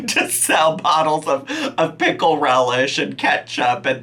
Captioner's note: laughing